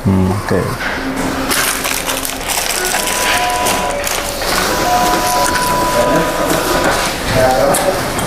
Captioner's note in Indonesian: suara mesin printer; suara bel pintu